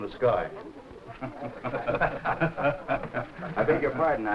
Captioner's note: guests laughing